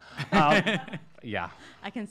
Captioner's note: laughs